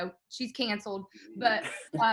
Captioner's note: laughing